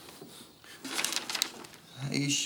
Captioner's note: paper rustles